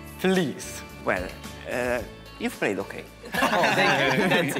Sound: laughs

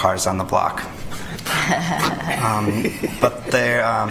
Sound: laughter

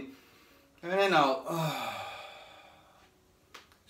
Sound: exhales

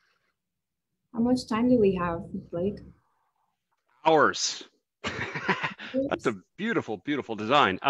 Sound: laughs

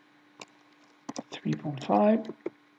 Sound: keys typing

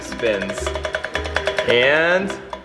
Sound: wheel spins

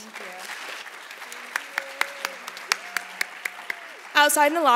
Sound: audience applauding

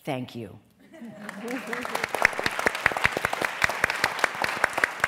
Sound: applause

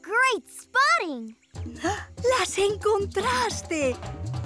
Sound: gasping

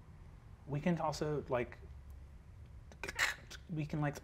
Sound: mimics static hissing

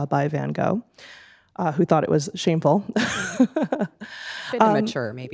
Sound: laughing

